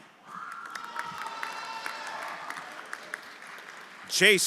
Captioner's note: everyone applauding and cheering